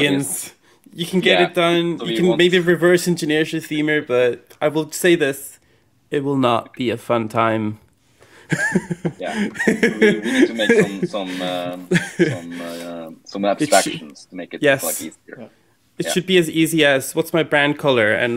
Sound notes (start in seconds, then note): 8.4 laughing; 9.8 speaking faintly